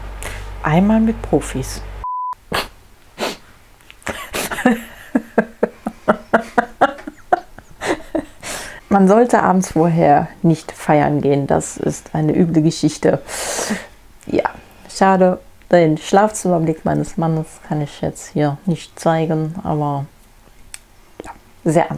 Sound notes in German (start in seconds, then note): 4.0 lacht